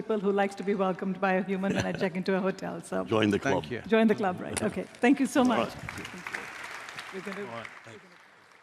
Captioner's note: applause